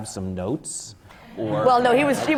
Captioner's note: laughter